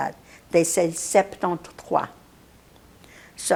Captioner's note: non-english